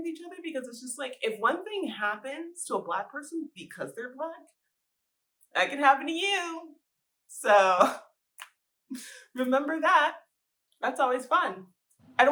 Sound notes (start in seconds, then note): 8.1 snap